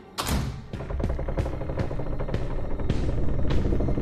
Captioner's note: wooden boards creaking